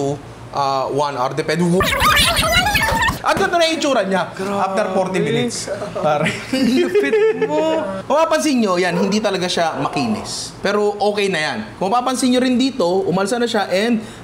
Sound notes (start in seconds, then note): 1.8 timelapse sound effect; 5.7 laughter